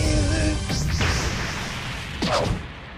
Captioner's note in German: Krachen